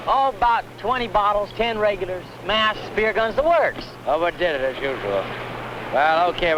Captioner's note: speaking spanish